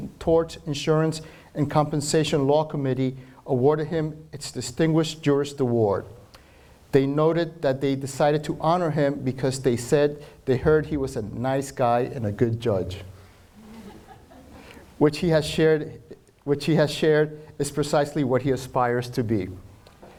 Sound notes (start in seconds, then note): 13.6 audience member laughs